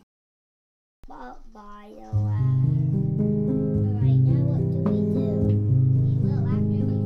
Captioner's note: child babbling; gentle music